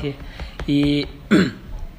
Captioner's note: clears throat